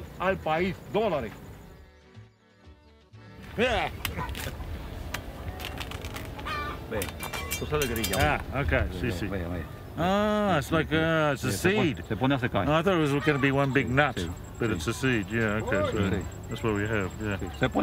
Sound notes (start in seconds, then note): 3.1 war cry; 4.0 cutting noises